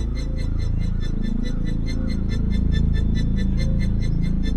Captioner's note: birds caw in distance